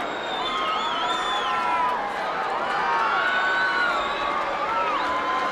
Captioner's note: crowd members whistling